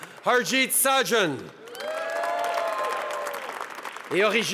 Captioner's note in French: Acclamations et applaudissements